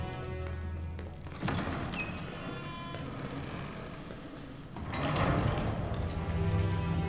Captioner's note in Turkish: Ayak Sesleri; Kapı Kapanma Sesi